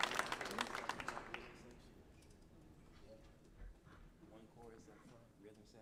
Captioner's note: musicians softly chattering